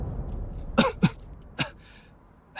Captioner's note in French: Tousse